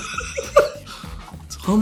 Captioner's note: Kieran laughs